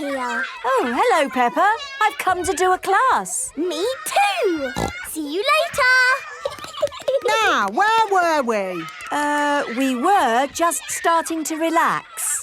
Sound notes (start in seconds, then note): 4.6 snorting; 6.2 giggling